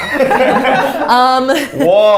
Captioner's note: both laughing